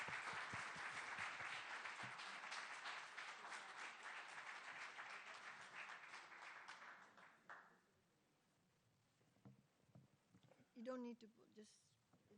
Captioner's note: applause